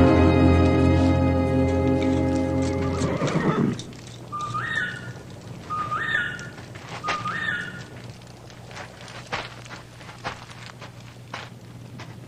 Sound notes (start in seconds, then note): 2.2 horse neighs; 4.0 birdlike whistling